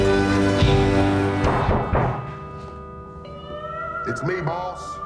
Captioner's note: knocking on the door